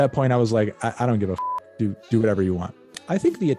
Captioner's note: beep